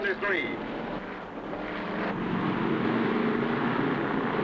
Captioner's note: engines rumbling